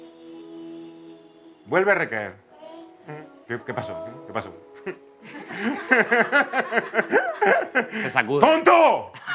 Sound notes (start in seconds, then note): 5.2 laughs